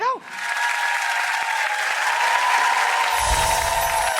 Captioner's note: audience applauds